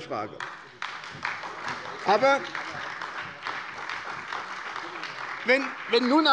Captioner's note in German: Beifall bei der SPD